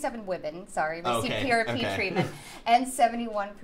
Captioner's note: laughs